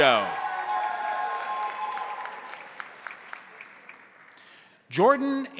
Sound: crowd cheering; crowd applauding

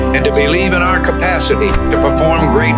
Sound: emergency alert tone; door closes

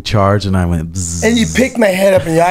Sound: imitates buzzing sound

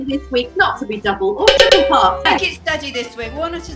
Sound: boing boing boing

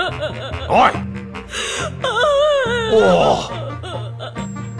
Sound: sobbing; sobbing continues

